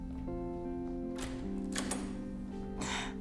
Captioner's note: door opens; scoffs